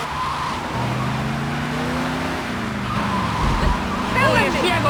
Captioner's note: car horn